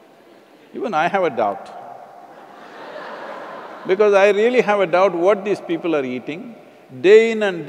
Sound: laughter

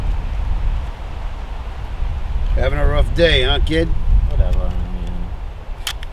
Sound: none

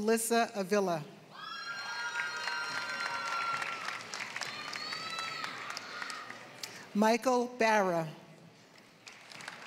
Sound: applause; applause

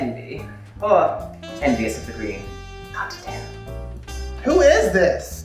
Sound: whispers

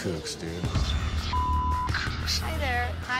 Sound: beep

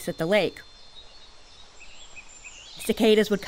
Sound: nature sounds, birds

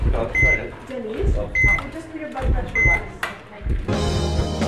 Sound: heartbeat; ekg sound

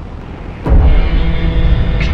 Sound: rift Starting Up

